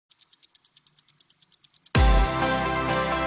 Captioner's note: clicking